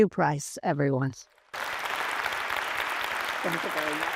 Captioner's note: applause